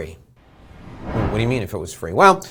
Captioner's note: air whooshing